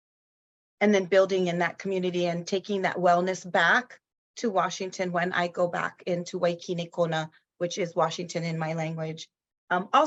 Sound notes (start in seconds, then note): 6.1 speaks in foreign language